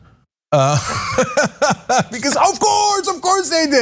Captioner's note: laugh